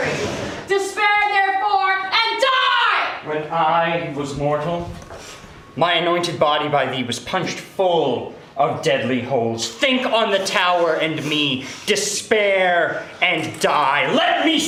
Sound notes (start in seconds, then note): 3.0 distressed breathing and whimpering